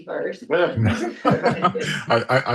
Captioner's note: all chuckling